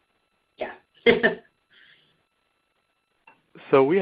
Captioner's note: silence